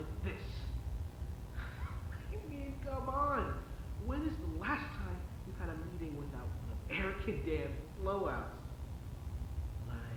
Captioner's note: chuckles